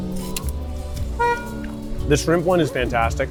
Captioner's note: distant car horn honking